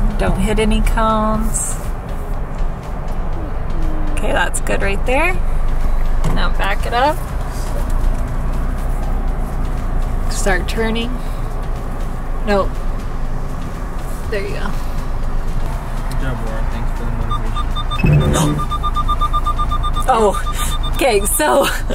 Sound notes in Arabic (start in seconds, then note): 16.6 صفير مستشعر السيارة; 18.3 لهيث